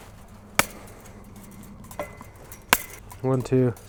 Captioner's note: chain link snapping